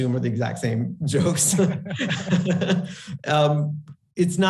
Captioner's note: both laughing